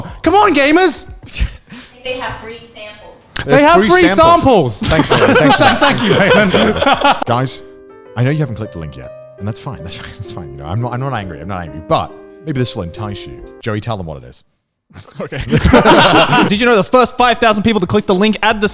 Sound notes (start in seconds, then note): 4.8 all laughing; 15.0 all laughing